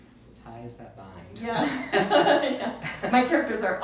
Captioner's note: both laugh